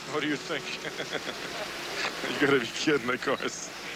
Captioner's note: laughs